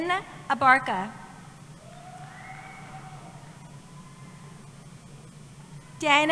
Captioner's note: cheering